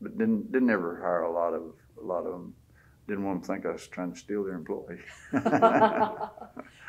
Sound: laughter

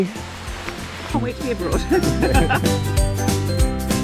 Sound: laughs

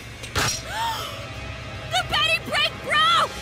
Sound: gasps

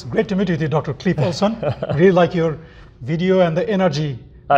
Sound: laughs

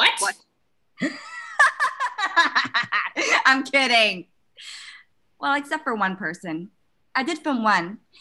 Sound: laughs

